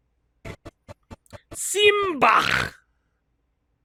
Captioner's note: weird phlegm noise at the end again